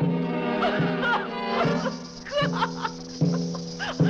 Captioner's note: Mrs. Wilson screams; sobbing